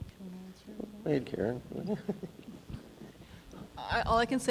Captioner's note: laughs